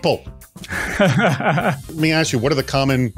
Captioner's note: laughs